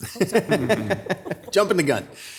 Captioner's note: laughing